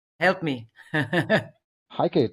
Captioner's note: laughs